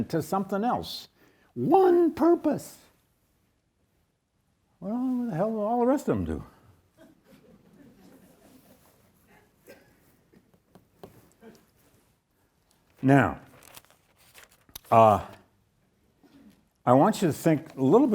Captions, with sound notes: to something else, one purpose. Well, what the hell do all the rest of 'em do? (audience chuckles) Now, I want you to think a little bit more about this,